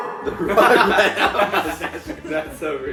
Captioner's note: all laughing